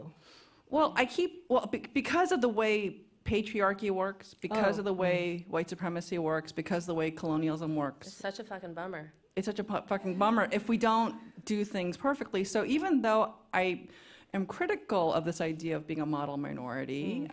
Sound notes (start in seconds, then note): none